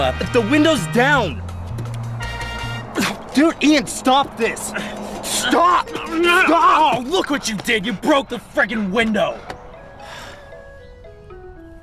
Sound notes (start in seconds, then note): 9.8 sighs